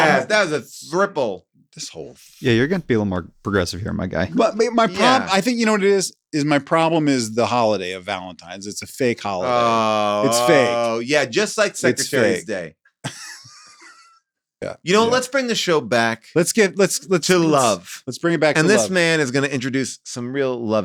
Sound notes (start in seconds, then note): 13.0 laughs